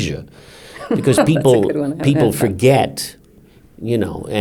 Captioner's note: laughs